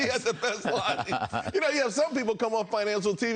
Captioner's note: laughter